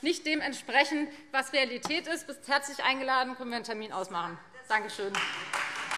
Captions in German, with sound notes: der Realität entsprechen. Du bist herzlich eingeladen; wir können gerne einen Termin ausmachen. [Beifall Freie Demokraten]